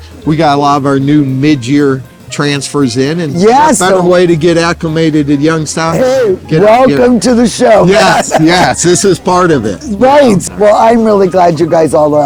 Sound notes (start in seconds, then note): 5.8 laughing